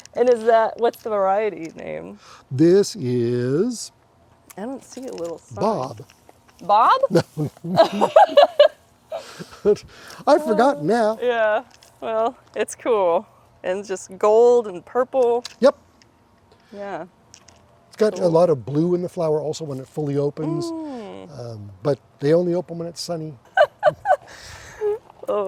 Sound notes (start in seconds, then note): 10.1 laughing